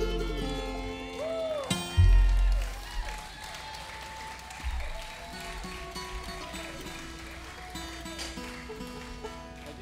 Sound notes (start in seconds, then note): 1.4 audience applauding